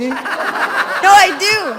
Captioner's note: students laugh